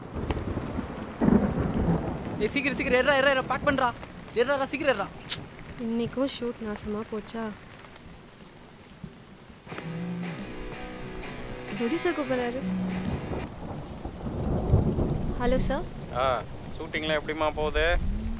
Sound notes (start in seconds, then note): 0.0 thundering; 9.6 phone ringing